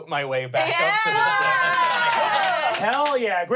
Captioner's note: everyone cheers